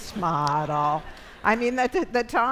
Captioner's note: audience laughs